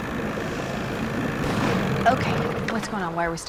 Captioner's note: engine backfires